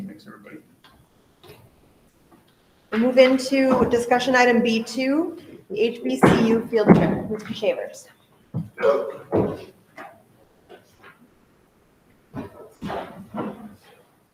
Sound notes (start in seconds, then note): 8.7 person exclaims softly